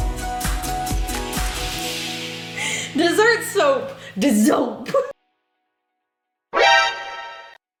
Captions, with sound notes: (chuckling) Dessert soap, dessoap. (horror music)